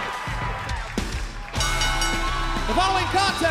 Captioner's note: bell ringing